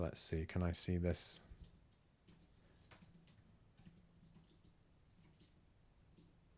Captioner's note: silence